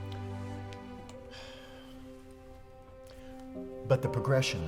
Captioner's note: sighs